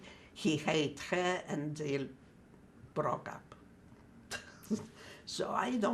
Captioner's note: laughing